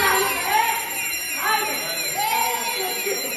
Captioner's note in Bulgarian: противопожарна аларма